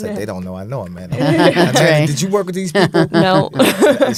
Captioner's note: laughing